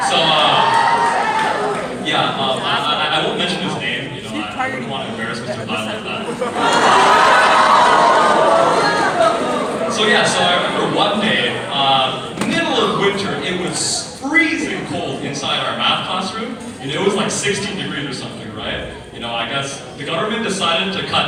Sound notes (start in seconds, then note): 5.9 uproar noise